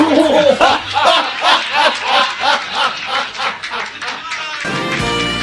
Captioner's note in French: Rires de Sitcoms et des Robots